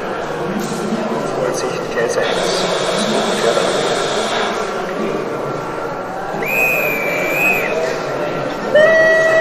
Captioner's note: conductor's whistle